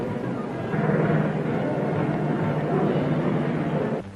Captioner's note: crowd murmuring